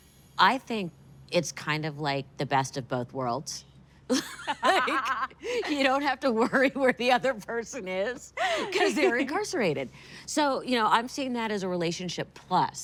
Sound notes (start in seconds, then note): 4.2 laughing